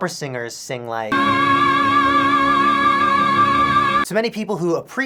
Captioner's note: aaaaaaaaahhhhhhhh